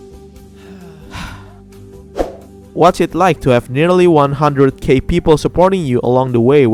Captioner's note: sigh